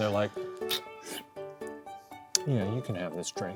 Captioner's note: slurps